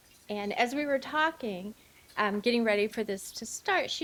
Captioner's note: none